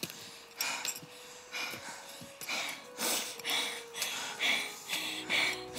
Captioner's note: sniffle